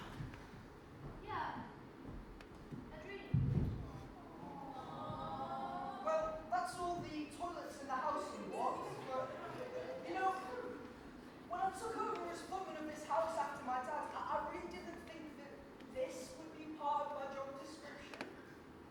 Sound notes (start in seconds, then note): 4.4 audience awwws